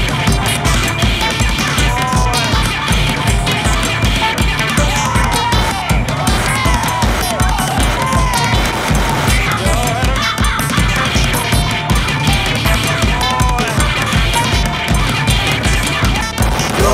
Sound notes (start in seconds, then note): 0.0 aggressive croaking; 1.7 kerfuffle sounds